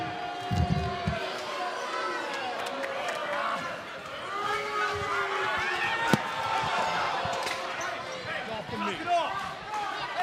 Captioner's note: cheers and boos